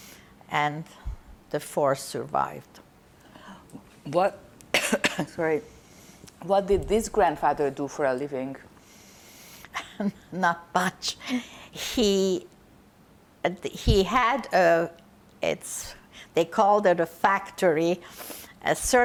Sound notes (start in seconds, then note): 4.7 coughing; 10.1 laughing